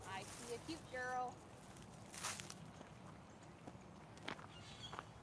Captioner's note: walking sounds